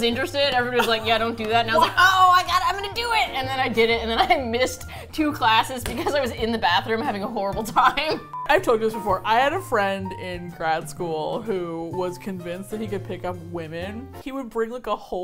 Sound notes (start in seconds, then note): 7.6 laughs